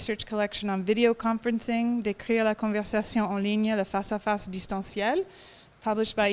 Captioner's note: speaking french